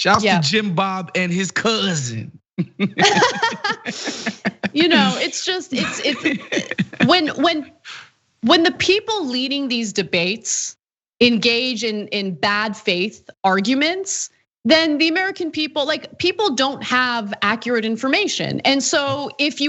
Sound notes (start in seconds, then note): 2.6 laugh